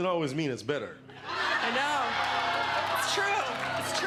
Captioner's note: laughing